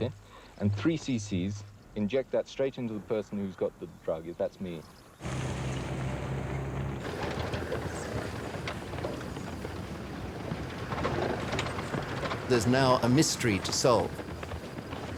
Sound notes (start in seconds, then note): 5.7 jeep rumbling